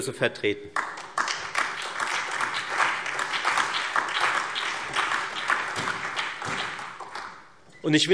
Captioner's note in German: Allgemeiner Beifall